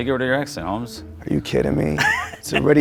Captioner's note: laughs